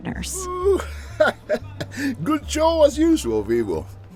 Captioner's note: laughs